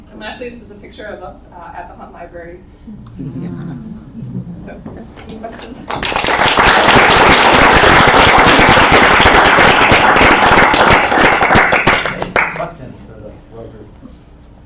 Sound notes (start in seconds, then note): 3.0 quiet laughter; 8.5 applause